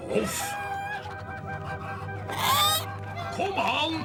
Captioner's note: clucking